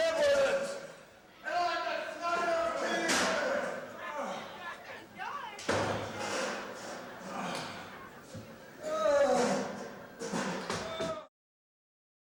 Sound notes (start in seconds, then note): 3.5 objects clattering; 8.8 Ole groaning